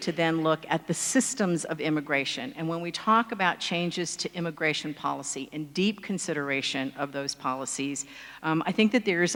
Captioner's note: none